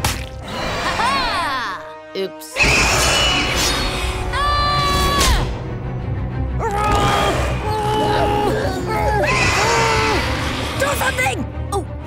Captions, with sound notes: Hey! Ha-ha! Oops. [shrieking] Aaah! [grunting] Do something!